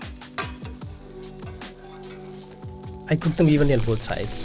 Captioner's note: spatula scraping